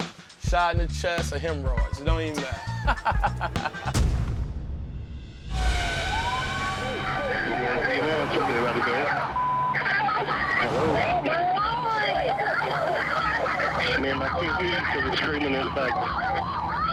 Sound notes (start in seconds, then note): 2.3 laughs; 5.5 siren wailing; 9.2 indistinct shouting